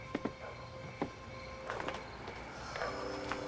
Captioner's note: dog barking